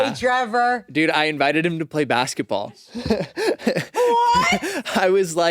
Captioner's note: laughs